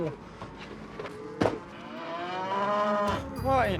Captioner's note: door closes, mooing